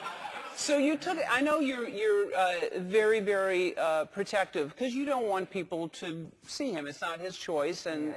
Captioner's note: laugh